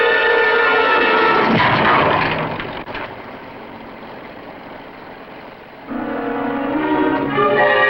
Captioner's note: hammering